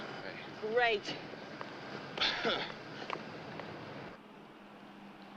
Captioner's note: laughs